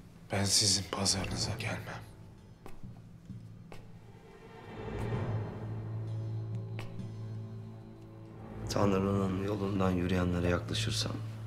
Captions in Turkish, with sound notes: Ben sizin pazarınıza gelmem. (Ayak sesi) Tanrı'nın yolundan yürüyenlere yaklaşırsan...